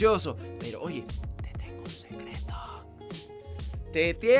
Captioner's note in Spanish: susurrando